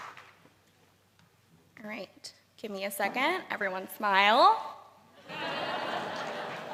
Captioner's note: laughter